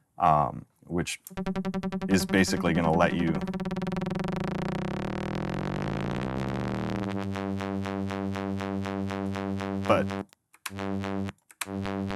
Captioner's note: warbling digital tone